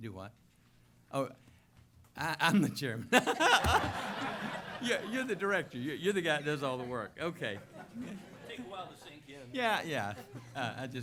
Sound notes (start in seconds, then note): 3.1 laughter